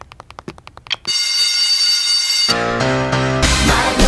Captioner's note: bell ringing